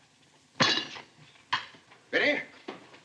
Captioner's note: cutlery clanks